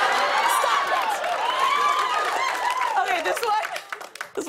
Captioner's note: laughter; cheering